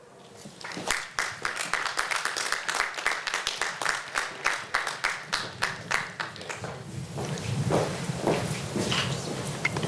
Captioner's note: applause